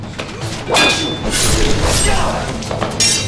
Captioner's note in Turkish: Dövüş sesleri